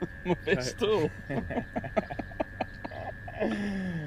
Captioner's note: laughing